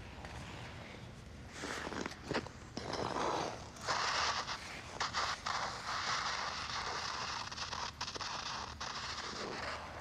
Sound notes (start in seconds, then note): 2.7 skates swoosh and scrape